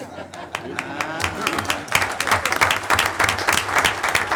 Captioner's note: audience applauding